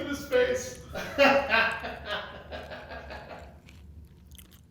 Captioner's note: laughing; crunch sounds